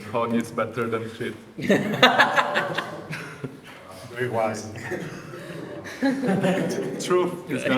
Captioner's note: laughter